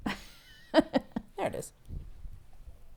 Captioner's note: laughing